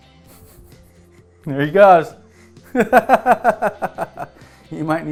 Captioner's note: laughing